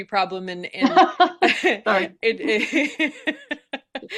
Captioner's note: chuckles